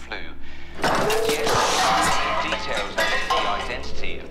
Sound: cafetiere crash es

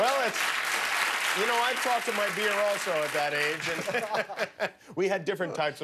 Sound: applause

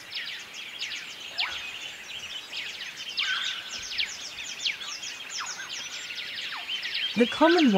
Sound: birds chirping

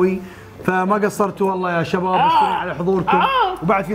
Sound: shouts in pain

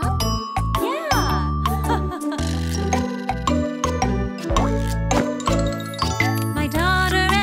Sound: chuckling

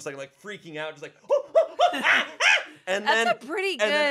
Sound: mimics monkey screech

